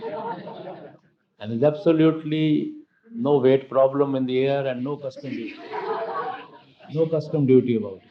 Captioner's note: laughter; laughter